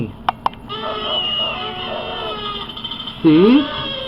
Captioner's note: party favors and noisemakers